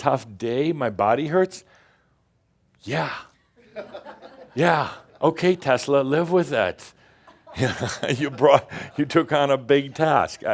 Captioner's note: a few chuckles